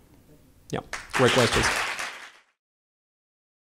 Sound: audience applause

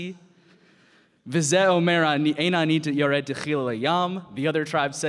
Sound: speaking in Hebrew

